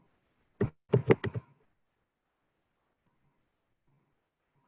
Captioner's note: keyboard tapping